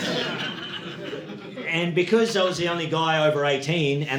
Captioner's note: audience laughing